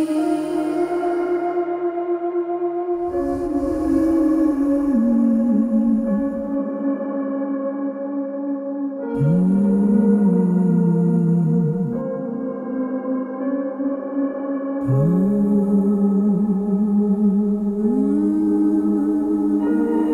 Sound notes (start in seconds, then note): 2.9 humming